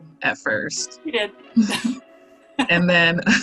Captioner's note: chuckles